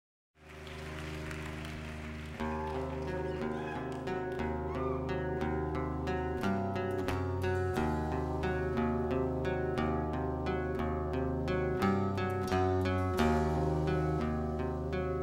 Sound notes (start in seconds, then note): 0.4 audience cheers; 0.6 soft rock music